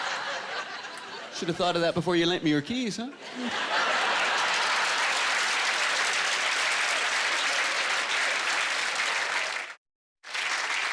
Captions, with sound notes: Should of thought of that before you lent me your keys, huh? (Applause)